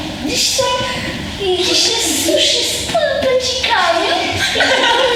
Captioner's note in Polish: śmiech